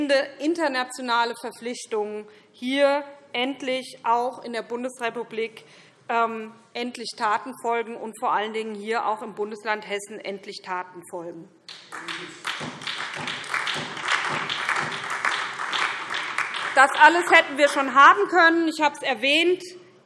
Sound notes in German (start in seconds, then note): 11.7 Beifall SPD und vereinzelt DIE LINKE